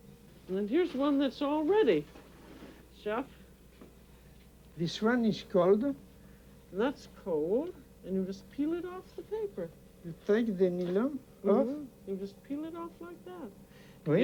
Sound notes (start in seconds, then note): 11.1 french